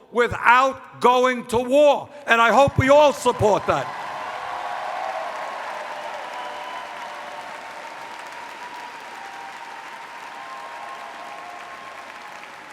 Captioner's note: cheers